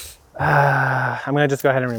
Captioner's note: groans